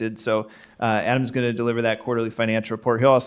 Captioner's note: none